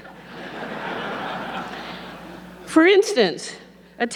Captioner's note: audience laughing